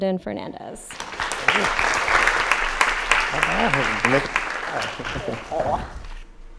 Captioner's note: applause